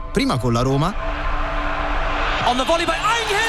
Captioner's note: crowd noise